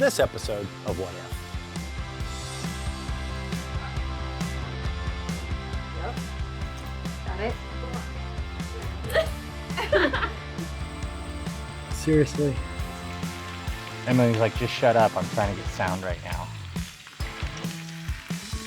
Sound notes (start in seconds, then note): 4.3 upbeat music; 9.7 laughter